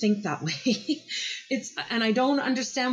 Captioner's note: laughs